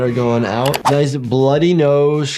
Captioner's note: mouse clicking